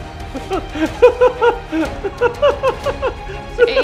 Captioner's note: laughing